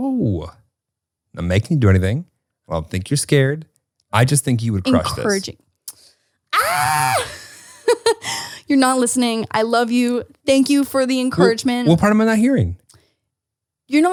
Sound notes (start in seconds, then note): 6.5 screams